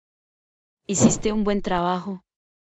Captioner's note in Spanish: FX - Whoosh - 03